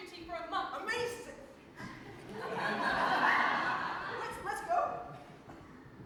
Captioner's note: audience laughs